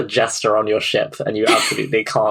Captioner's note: laughs